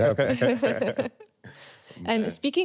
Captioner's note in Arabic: يضحك